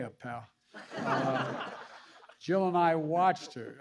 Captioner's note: laughter